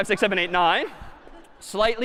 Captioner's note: laughter